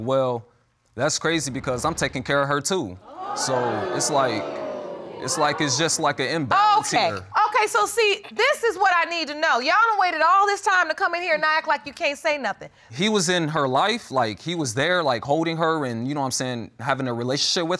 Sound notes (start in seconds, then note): 3.0 audience exclaiming